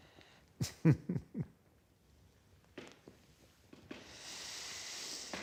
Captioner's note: Undertaker chuckles ruefully